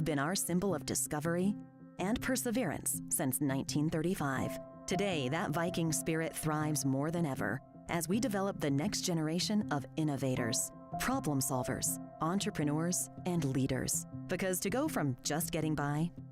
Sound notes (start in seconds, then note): none